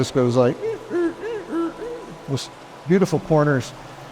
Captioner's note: imitates squeaking